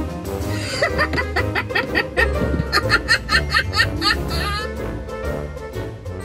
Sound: laughing

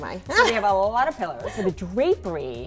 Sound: laughing

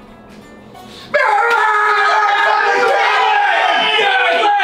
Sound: yelling

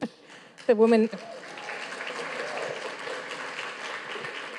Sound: audience claps

